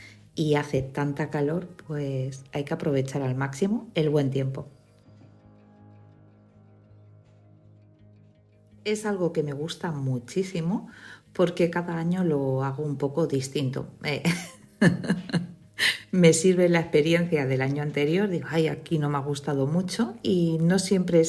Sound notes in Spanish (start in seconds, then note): 14.2 risas